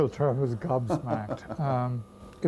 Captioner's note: laughter